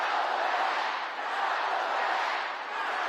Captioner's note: crowd chanting